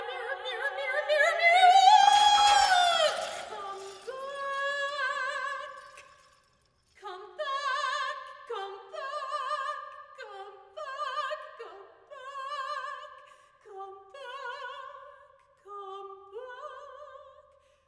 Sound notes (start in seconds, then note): 2.0 breaking glass